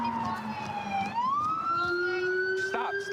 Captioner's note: sirens